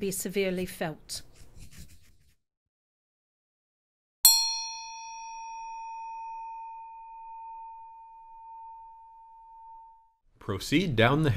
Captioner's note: A bell sounds